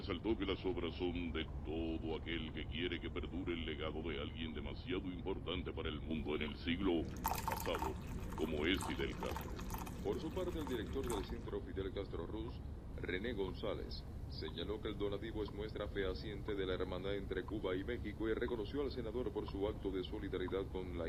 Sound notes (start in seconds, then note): 0.1 radio; 6.4 liquid dripping; 12.9 radio